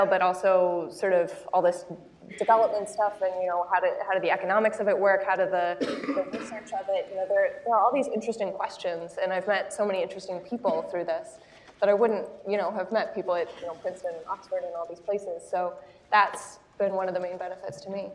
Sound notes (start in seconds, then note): 5.8 cough